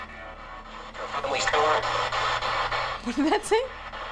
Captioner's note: spirit box voice